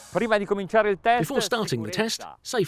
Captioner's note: speaking in foreign language